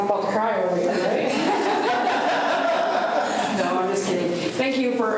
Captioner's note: students laugh